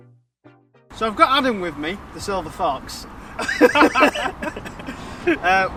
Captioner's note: laughing